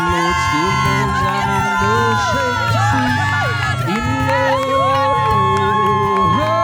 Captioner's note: crowd cheering